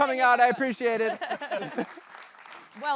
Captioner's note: applause